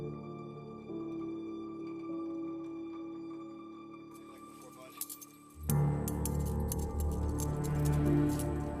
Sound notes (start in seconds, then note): 4.2 cuffs clinking; 5.4 tense music